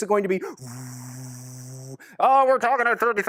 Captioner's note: makes buzzing sound